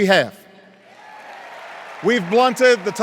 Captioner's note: cheers and applause